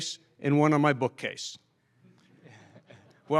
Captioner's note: laughter